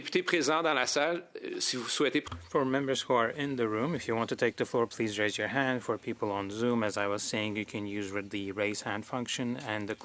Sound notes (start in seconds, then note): 4.2 speaking French